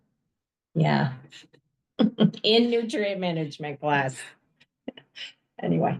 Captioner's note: laughs